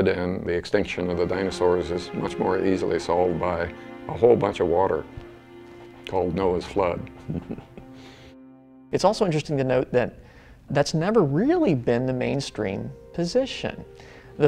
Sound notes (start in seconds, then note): 6.5 laughs